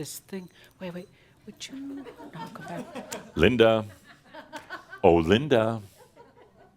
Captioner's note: a few chuckles